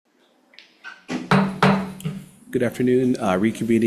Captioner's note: gavel clanking